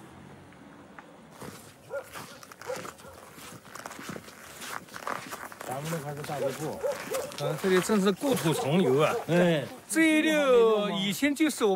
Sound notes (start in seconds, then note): 1.3 footsteps rustling; 1.8 dog barking